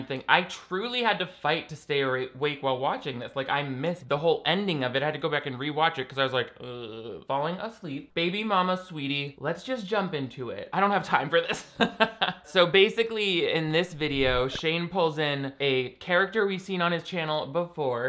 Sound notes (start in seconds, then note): 6.8 groaning; 11.9 laughs